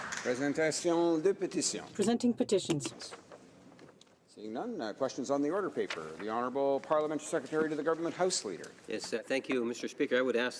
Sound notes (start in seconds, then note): 0.0 applause